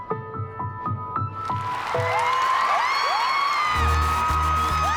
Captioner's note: cheering and applause